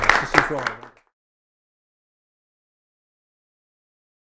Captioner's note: group applauding